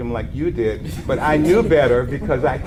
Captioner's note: audience laughs